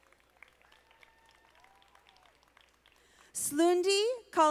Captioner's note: audience applauding